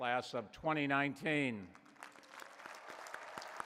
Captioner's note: applause